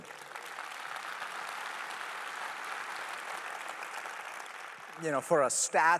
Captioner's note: applause